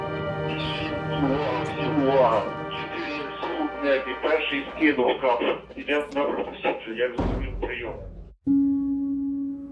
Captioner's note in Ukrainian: рація